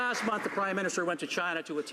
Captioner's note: some Applause